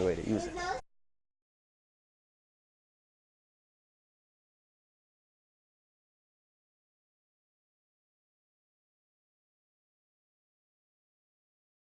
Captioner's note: silence